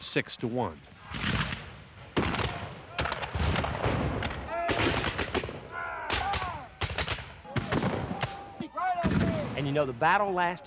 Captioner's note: gunfire and Yelling